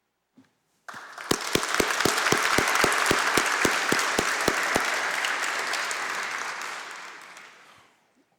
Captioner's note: applause